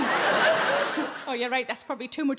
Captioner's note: audience laughing